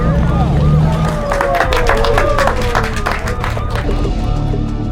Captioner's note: hands clapping